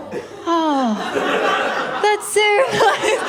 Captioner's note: laughter